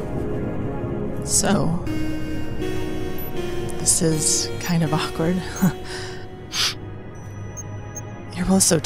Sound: sniffs

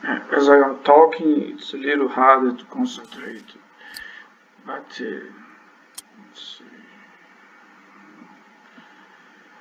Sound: click

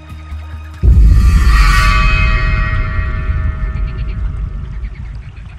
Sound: scary sound; nature sounds

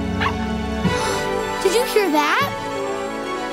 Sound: barking; gasping

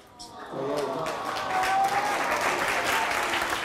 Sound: applauding

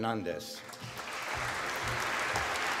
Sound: applause

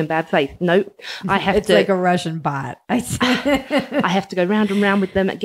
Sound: laughs

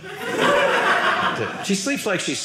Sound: audience laughing

